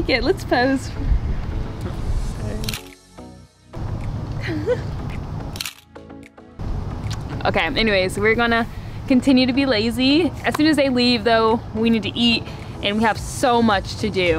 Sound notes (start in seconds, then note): 2.6 camera shutter